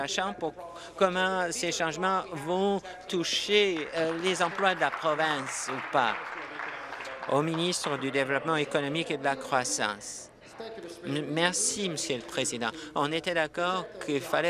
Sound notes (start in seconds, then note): 6.9 applause